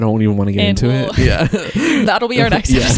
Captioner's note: laughs